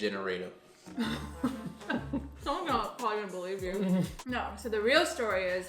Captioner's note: laughs